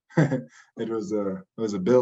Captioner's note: chuckles